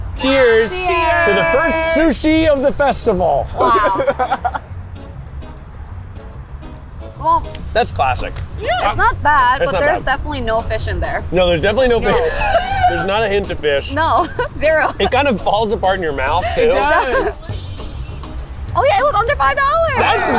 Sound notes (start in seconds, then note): 3.6 laughing; 12.0 laughs